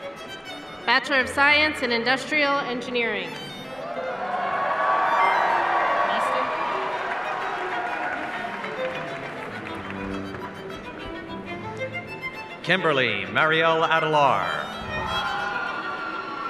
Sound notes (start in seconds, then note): 3.8 cheers and applause